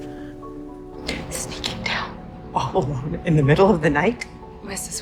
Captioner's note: voiceover